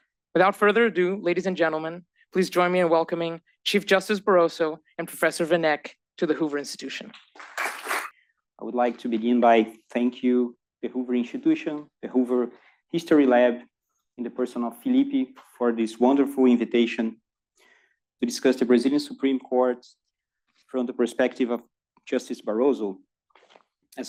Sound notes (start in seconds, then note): 7.4 applause